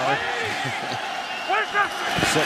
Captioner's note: laughs